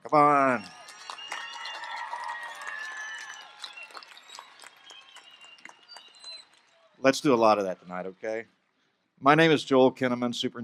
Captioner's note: applause